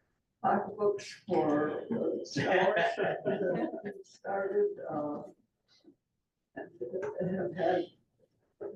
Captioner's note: laughter